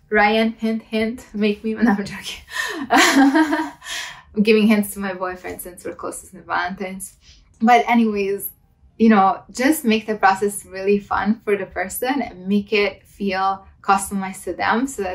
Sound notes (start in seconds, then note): 2.6 laughs